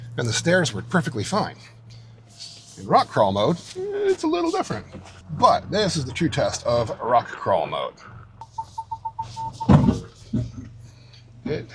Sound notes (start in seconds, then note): 8.6 truck beeping; 9.3 truck thuds